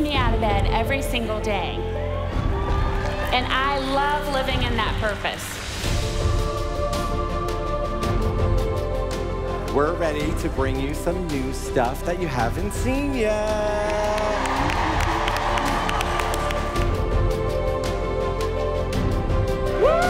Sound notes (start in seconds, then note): 13.4 applause